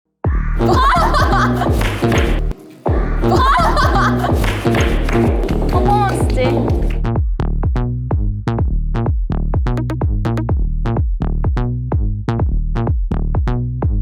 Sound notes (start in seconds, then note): 0.6 bursted in laughter from the start